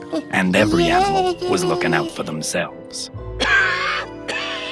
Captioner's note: voice on TV; owl coughs